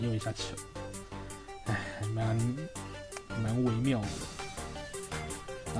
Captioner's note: sigh